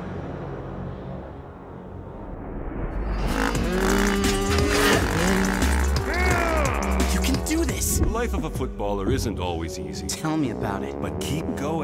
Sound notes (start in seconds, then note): 5.6 grumbling